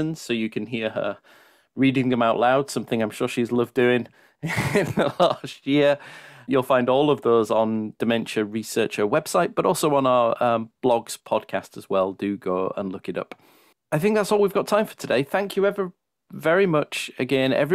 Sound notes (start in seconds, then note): 4.4 laughs